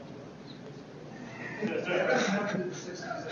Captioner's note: laughter